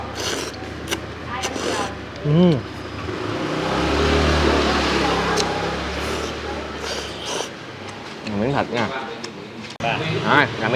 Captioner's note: slurp slurp